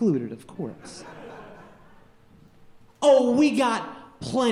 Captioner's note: audience laughing